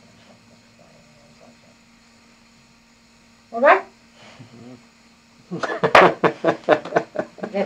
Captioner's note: laughter